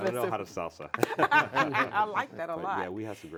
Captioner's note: laughing